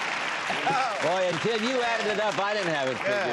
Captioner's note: applause